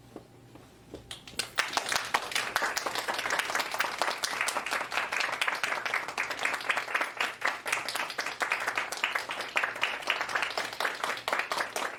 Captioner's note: applause